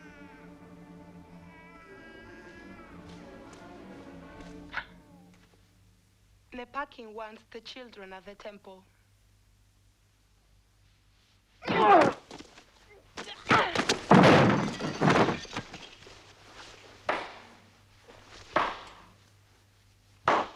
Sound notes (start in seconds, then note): 4.8 Tracima gasps; 11.6 guard groans; 13.6 Tracima grunts; 17.5 Rothrar clapping